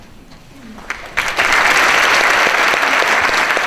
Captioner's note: applause